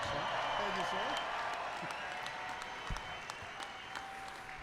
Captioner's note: applause